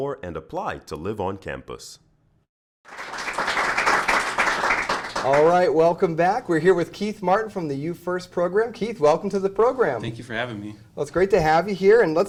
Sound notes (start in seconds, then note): 2.8 applause